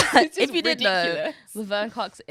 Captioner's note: both laughing